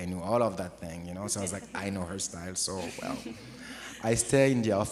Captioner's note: audience is chuckling